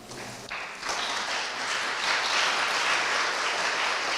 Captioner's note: audience applauds